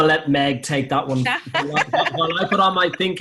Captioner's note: laughter